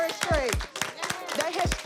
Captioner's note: applause